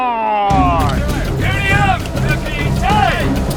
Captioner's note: shouts in Latin